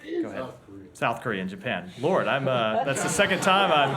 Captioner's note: laughter